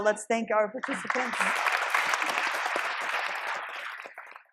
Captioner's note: audience applauding